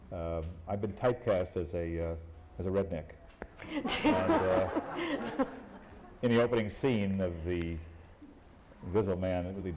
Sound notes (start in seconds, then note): 3.6 laughter